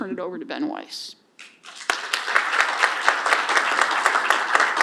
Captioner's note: applause